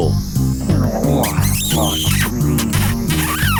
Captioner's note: kissing sound